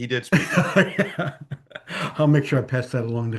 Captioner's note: laughs